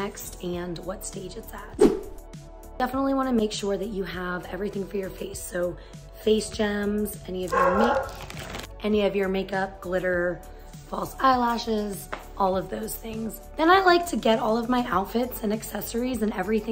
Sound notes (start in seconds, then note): 7.4 barking